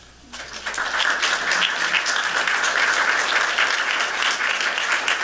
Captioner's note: applause